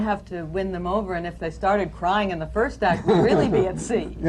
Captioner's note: laughter